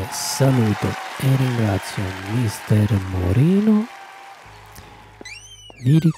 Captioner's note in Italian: Applauso